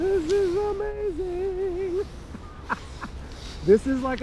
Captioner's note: laughs